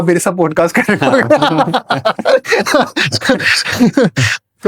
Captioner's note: laughter